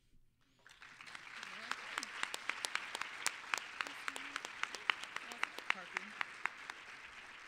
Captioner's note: applause